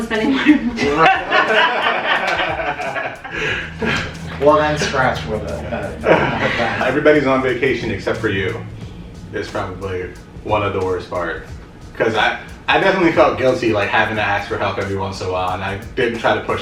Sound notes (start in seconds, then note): 0.1 laughter